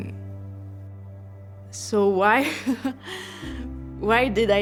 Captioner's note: laughing